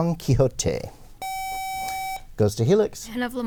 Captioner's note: buzzer